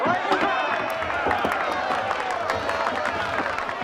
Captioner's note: applause